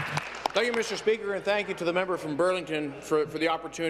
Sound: applause

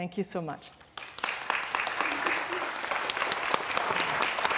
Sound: applause

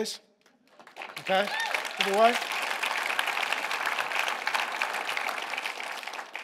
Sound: congregation applauding

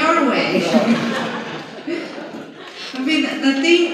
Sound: laughter

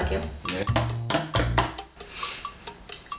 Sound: walking up the stairs

